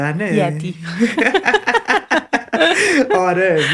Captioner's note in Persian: خنده